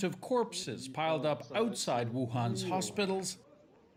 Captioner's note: speaking foreign language